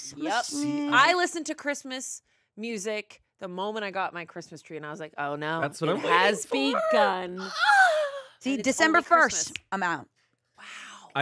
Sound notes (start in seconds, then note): 7.1 squeals